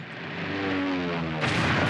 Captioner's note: plane roaring; gun roaring